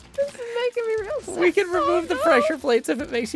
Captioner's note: whimpering